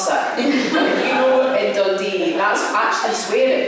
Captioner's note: laughter